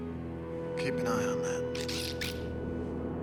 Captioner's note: DRD whirring